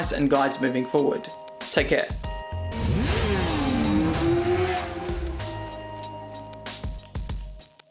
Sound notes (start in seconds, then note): 2.7 bike engine roaring; 3.4 whimsical music